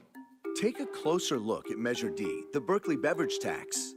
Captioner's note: voiceover